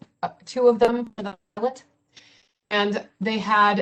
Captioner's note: audio distorts